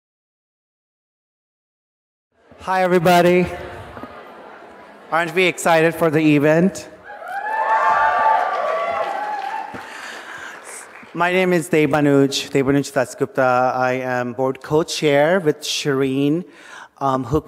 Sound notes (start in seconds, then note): 2.4 audience chattering; 7.0 audience cheering and applauding